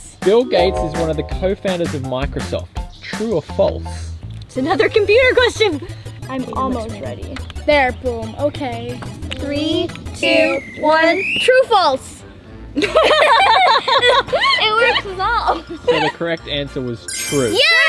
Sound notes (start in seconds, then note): 10.2 whistle blows; 12.8 laughs